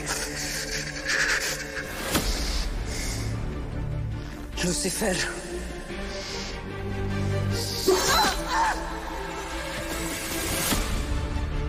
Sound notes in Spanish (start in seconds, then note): 0.0 Sollozos; 7.9 Grito